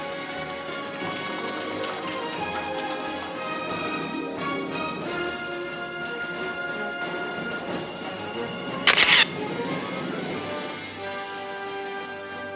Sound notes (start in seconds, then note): 0.1 audience applauding; 3.5 orchestral music; 8.9 camera shatters; 9.5 orchestral music